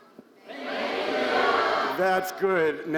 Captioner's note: crowd